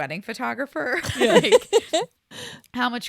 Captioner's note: everyone laughs